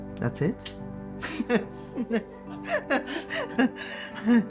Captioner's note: laughing